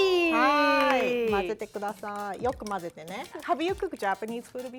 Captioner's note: speaking Japanese